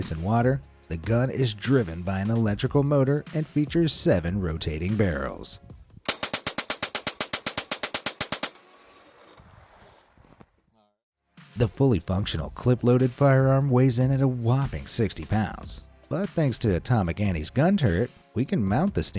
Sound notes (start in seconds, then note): 6.0 gunshots